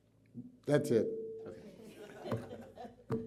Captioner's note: laughter